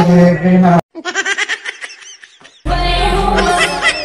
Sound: baby laugh

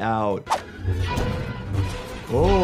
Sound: lightsabers humming, laser gun firing

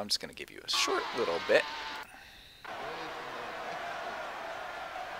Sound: crowd cheering

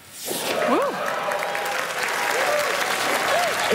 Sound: applause

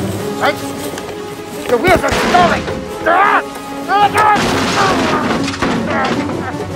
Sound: crash sounds

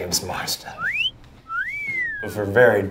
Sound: whistles

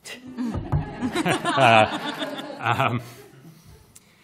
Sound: laughter

